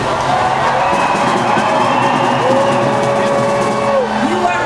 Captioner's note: crowd cheering